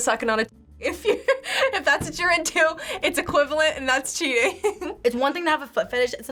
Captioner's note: laughs